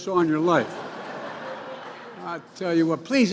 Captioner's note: laughter